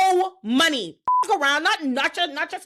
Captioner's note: beep